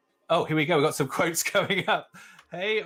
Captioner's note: laughs